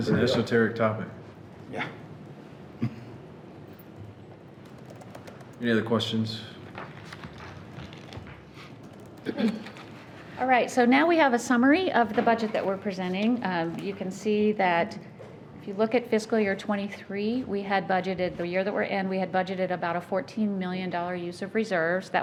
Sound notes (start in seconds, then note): 2.8 chuckling